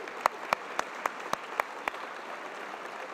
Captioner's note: applause